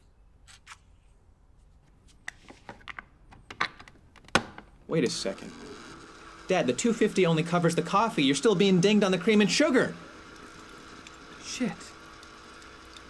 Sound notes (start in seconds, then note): 0.8 coffee pods crinkling